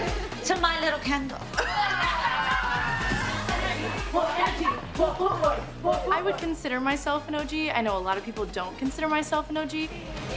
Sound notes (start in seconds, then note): 1.6 laughter